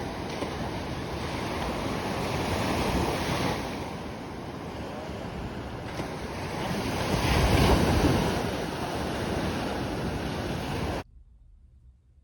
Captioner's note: more ocean waves + wind/weather